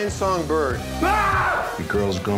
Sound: scream

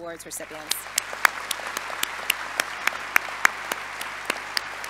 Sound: audience applauding

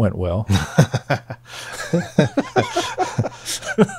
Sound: laughing

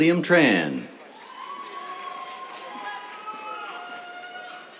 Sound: cheers, applause

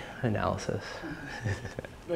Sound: laughs

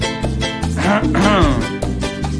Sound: coughs

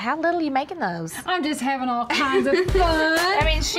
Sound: laughter

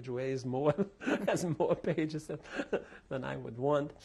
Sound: laughter

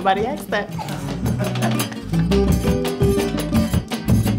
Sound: laughs

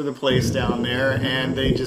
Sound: ocean whistling gently

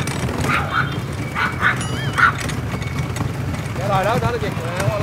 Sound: A dog is barking furiously at you

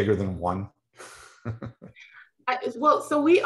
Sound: chuckles

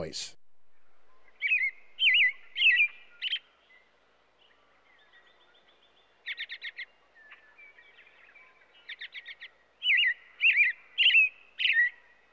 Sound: robin song

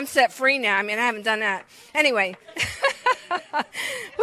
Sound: laughs

